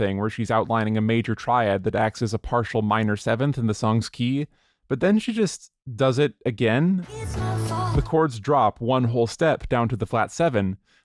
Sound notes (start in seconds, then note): 6.7 "it's my fault" echo